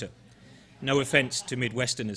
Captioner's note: audience laughing